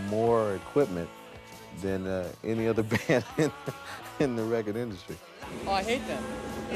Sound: laughs

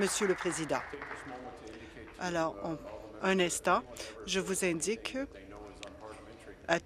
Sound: applause

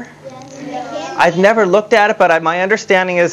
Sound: audience response

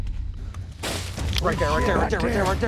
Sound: leaves rustling

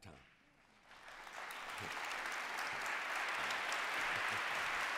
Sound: applause

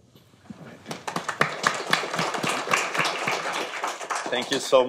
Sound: audience clapping

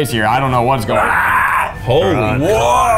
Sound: screeching like a dinosaur

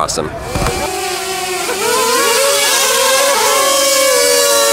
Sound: drone buzzes

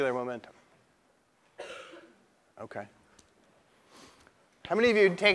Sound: cough

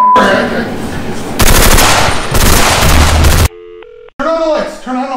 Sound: machine gun shoots

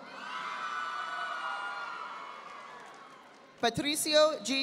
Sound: audience applauding

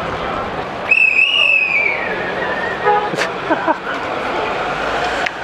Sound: whistle blows

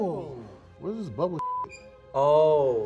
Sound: beep

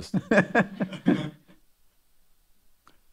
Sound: laughter

